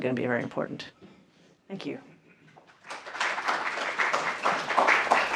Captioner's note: applause